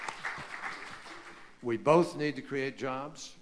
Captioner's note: applause